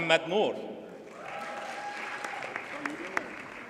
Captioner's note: audience cheers and applauds